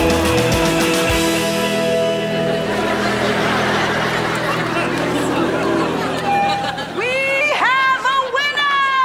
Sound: crowd gasping

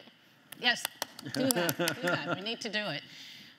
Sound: host laughing

